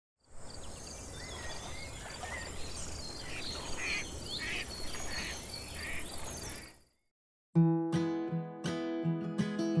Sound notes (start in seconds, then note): 0.2 nature sounds; 7.5 acoustic guitar music